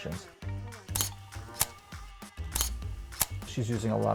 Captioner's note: camera clicking